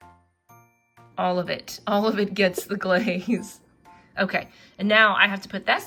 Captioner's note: laughs